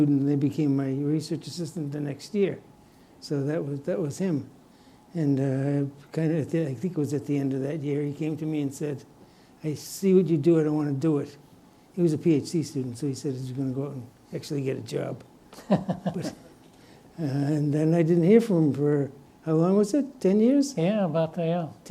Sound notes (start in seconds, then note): 15.5 chuckles